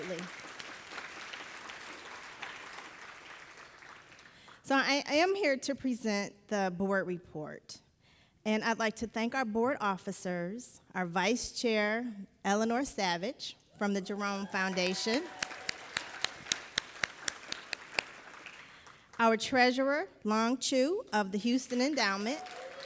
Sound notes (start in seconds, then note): 0.0 audience applauding; 14.5 everybody applauding